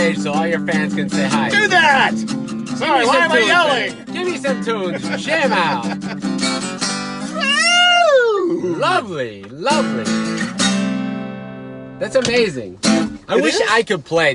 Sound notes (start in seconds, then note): 4.7 laughing